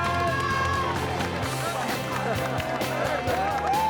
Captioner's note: cheering